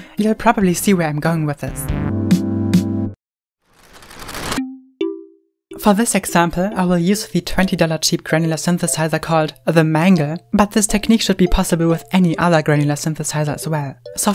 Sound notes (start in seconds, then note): 3.6 crackly sound effect